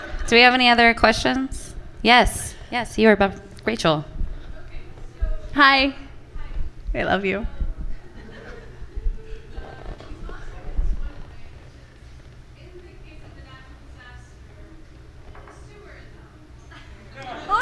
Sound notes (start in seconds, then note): 8.0 laughter from the audience